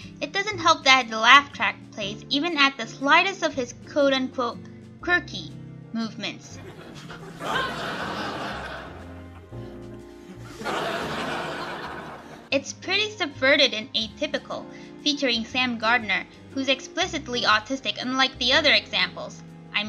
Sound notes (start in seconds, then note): 6.5 laugh track plays